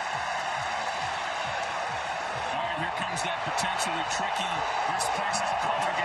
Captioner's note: cheering